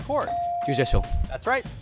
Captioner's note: bell dings